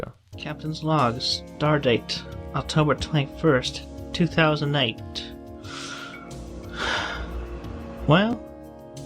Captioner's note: sigh